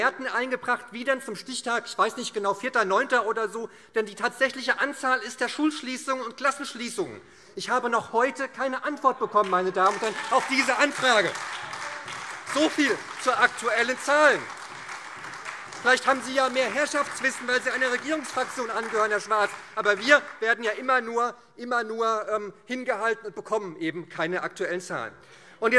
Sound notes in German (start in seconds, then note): 11.0 Lebhafter Beifall SPD, AfD und Freie Demokraten